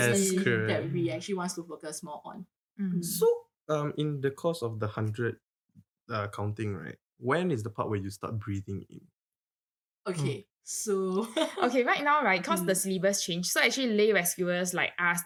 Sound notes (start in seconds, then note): 0.0 laughs; 10.9 laughs